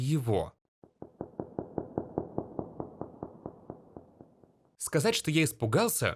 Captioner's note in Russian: эмбиентный звук воды